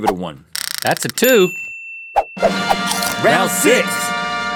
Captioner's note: bell rings